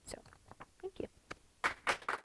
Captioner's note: applause from audience